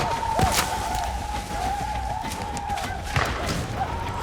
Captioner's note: shawnee shouting